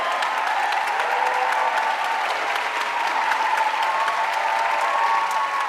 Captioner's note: audience cheering and applauding